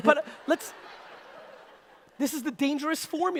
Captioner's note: audience laughter